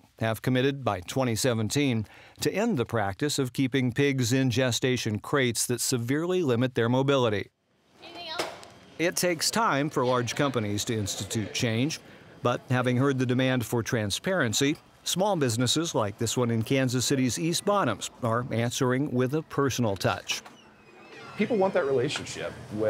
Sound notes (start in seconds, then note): 9.1 voiceover